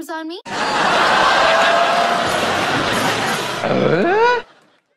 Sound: recording of long-dead people laughing

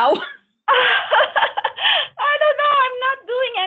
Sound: laughing

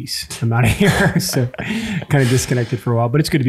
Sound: chuckles

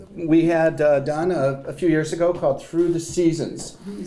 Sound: none

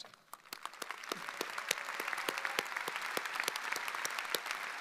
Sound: audience applauding

